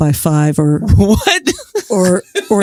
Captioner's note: laughs